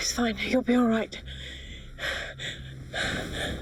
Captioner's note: panting